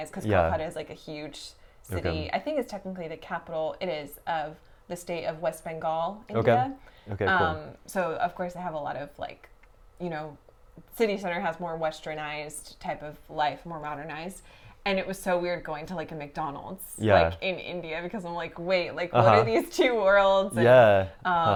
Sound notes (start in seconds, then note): 20.6 laughs